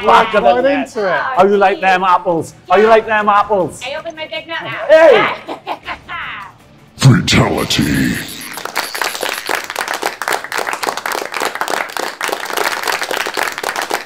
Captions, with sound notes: Right into it! - How do you like them apples? How do you like them apples? - I opened my big mouth. - [Announcer Voice] Fatality. (clapping)